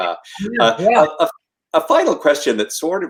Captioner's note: Aasif speaks softly